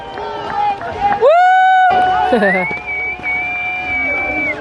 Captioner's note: cheers